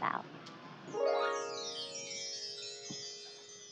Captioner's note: twinkling sound